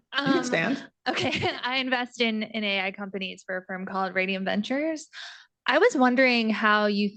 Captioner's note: laughs